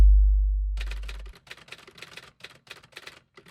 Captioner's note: ominous ding; typewriter keys clacking